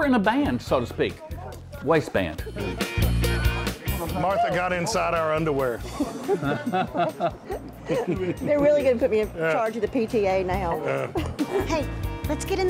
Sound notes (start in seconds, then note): 7.4 laughter